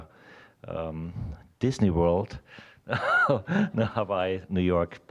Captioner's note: laughing